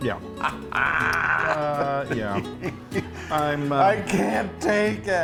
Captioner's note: laughs